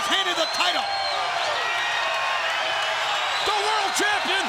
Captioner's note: crowd cheering